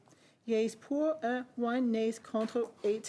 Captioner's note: speaking French